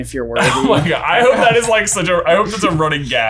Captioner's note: laughing